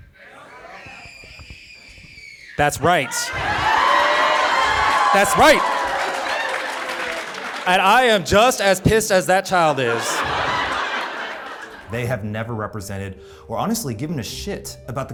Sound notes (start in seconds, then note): 0.2 child screaming; 3.6 audience cheering